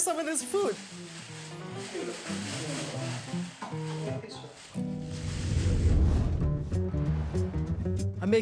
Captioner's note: bag rustling